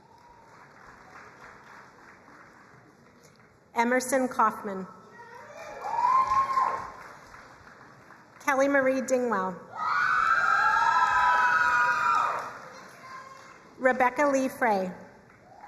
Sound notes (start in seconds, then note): 0.0 crowd applauding; 5.5 crowd cheering and applauding; 9.8 crowd cheering and applauding